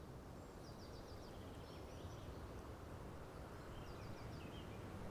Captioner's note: aves trinando